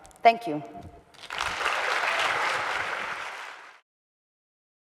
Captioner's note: audience applauding